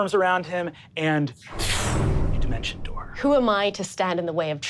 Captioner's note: imitates air whooshing